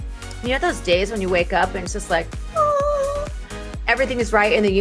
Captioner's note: vocalizes